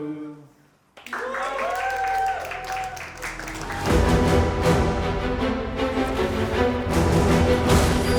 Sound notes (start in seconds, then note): 1.0 people cheering; 3.3 dramatic intro music